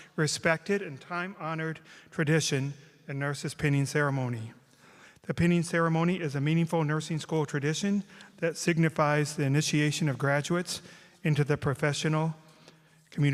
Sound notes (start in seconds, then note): none